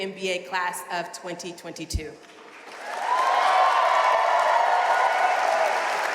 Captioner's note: audience cheering and applauding